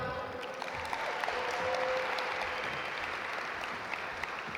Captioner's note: audience applaud